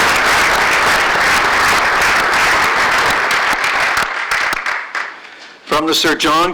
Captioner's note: applause